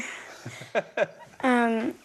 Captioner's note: laughs